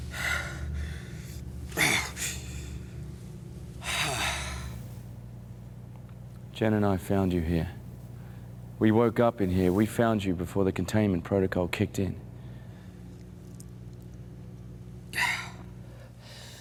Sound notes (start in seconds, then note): 1.7 exhales deeply then moans; 3.8 exhales deeply; 15.1 Malcolm exhales deeply